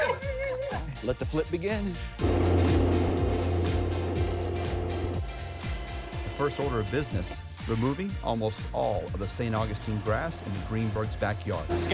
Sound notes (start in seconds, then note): 1.2 normal voice; 2.2 machine whirring